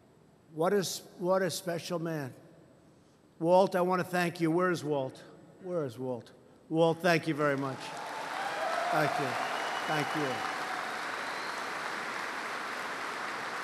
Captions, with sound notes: What a special man. Walt, I want to thank you. Where is Walt? Where is Walt? Walt, thank you very much. (Applause) Thank you, thank you.